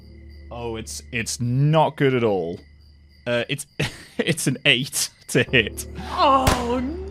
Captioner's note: laughing